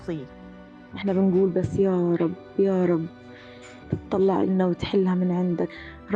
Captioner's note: speaking in foreign language